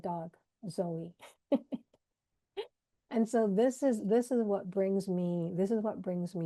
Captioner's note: laughs